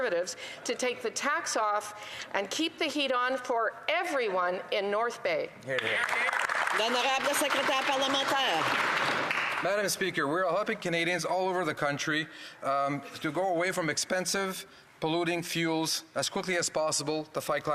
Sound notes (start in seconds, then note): 8.7 applause; 11.6 speaking in French